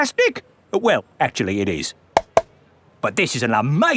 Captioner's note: taps